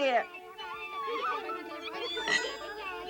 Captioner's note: happy chatter